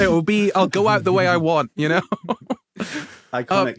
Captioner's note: giggles